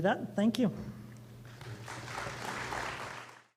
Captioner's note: applause